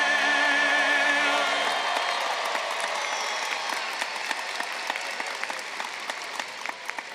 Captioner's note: graduates applauding and cheering